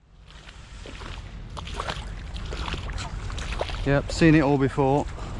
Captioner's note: water splashing